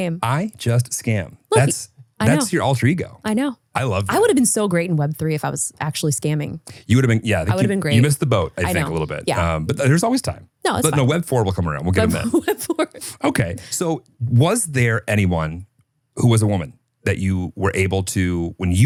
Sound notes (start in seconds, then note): 11.8 laughs